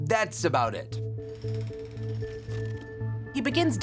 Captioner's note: drill whirring